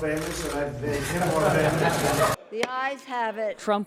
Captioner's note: laughter